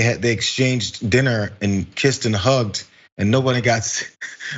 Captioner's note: laugh